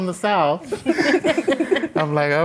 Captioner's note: laughter